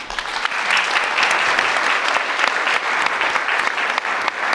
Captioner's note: audience applauds